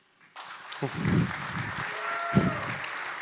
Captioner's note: applause